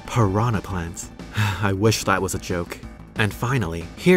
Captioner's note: sigh